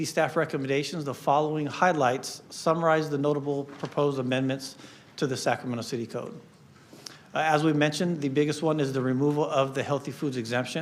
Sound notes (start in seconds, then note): none